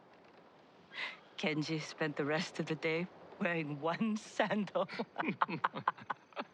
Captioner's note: laughing; laughs